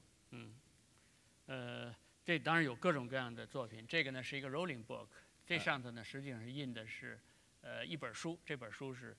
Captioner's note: speaking in Chinese